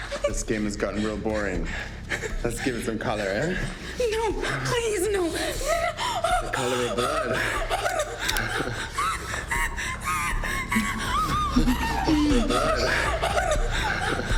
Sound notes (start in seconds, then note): 5.8 Michelle gasping; 8.3 dramatic music; 10.3 Michelle gasping